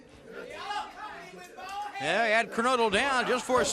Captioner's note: crowd chatter